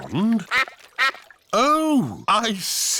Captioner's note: quacking